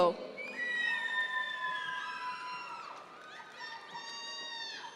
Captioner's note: audience members cheer